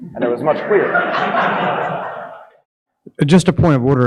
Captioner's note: audience laughing